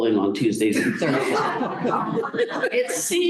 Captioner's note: laughter